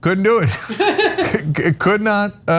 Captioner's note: laugh